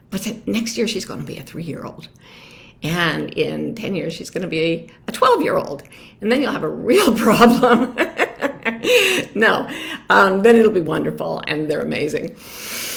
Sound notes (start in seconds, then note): 7.2 laughs; 12.4 inhales deeply